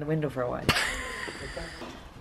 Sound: laughter

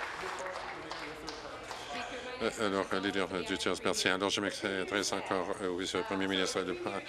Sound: applause

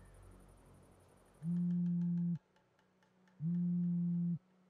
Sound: phone vibrating

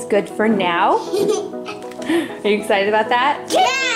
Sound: group laughing; children exclaiming

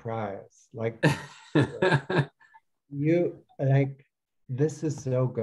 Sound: laughs

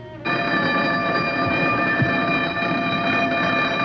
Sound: doorbell blaring

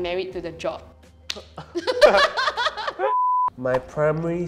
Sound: both laughs

